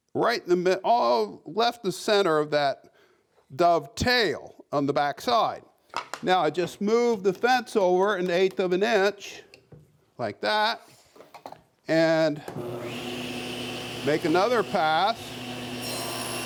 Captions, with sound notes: Right in the middle, uh, left the center of that dovetail on the back side. Now I just move the fence over an eighth of an inch like that and (machine revving) make another pass.